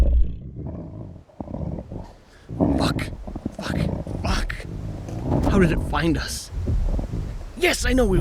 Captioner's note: dire wolf snarls and growls; whispering frantically